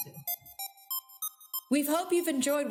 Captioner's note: electronic beeping